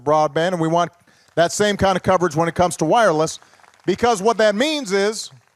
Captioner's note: applause